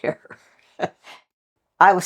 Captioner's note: laugh